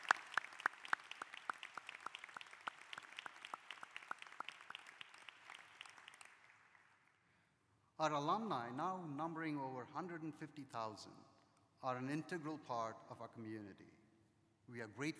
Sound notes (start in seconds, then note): 2.5 applause